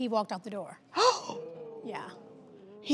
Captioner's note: audience gasping